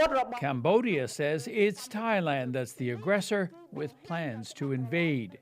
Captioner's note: speaking alternate language